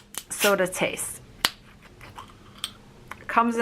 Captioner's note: bottle opening